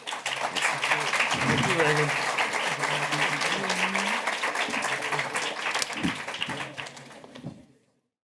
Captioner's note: applause